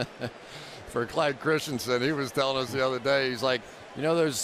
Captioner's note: laughs